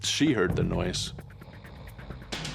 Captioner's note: snoring sound